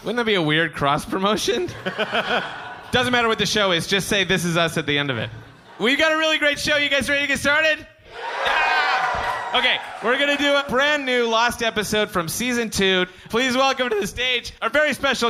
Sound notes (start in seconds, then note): 1.7 laughs; 8.0 crowd cheers